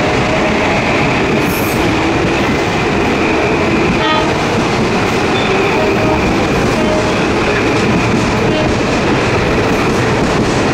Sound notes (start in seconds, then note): 3.8 horns from train on Tk 4